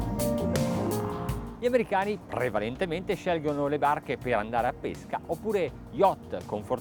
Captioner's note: speaks in foreign language